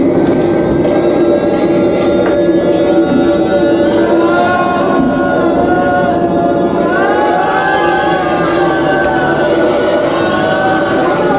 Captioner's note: thunder rumbling, discordant piano; thunder rumbling, discordant piano, sailors wailing